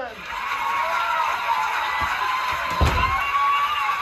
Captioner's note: recorded cheers and applause